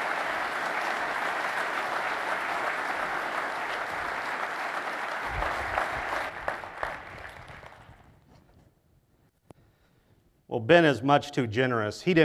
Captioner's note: applause